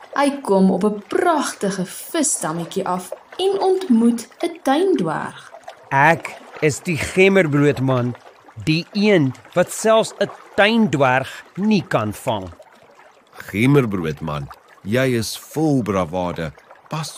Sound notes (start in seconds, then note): none